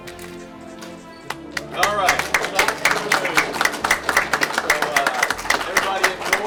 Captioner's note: applause